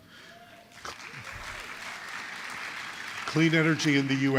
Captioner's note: applause